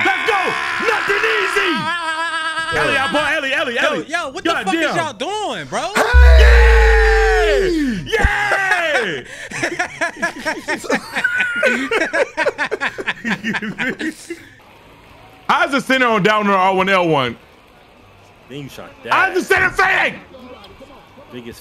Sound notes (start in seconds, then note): 2.0 screaming; 9.6 everyone laughs